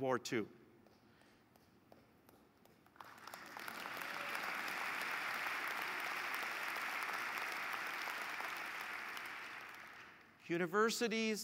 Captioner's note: applause